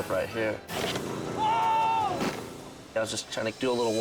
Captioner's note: all shouting